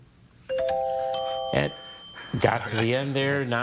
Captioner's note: bell chimes